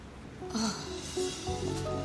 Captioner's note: groans